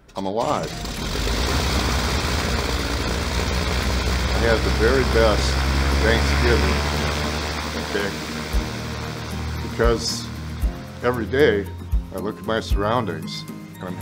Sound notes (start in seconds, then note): 1.0 plane engines hums